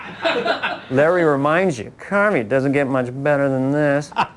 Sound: laughter

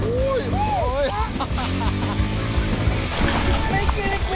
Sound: laughs

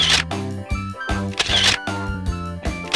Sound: cameral shuttering

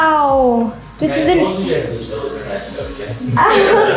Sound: laughter

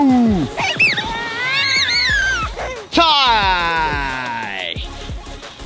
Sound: children laugh and scream with joy

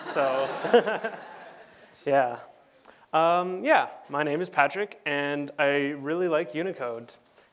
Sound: laughter

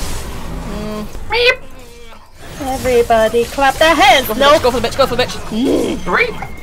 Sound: meep

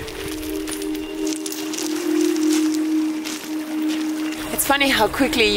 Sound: ethereal music; water lapping

